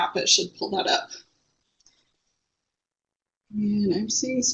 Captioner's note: no sound